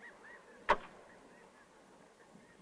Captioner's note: blow